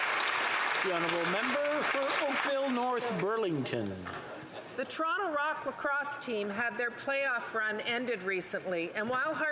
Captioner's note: applause